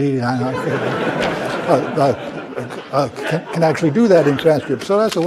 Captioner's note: laugh